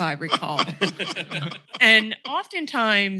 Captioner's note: laughter